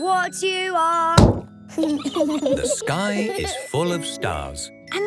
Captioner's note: giggling